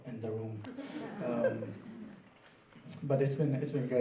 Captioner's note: laughing